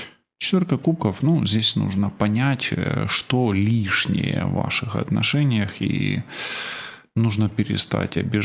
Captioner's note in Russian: тяжело вздыхает